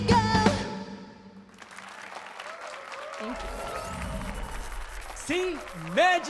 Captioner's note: applause and cheers